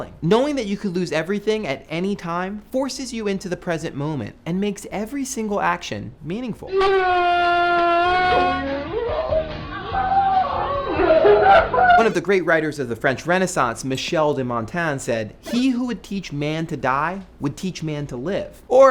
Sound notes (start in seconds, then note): 7.7 yelling; 9.2 crying